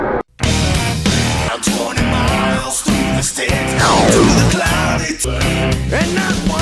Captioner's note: transiton noise